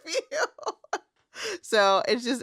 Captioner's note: laughs